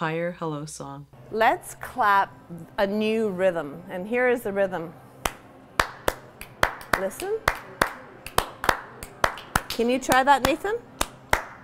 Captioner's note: instructor claps during hello song